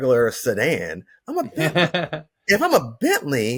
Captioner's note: laughs